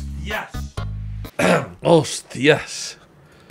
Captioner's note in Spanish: carraspea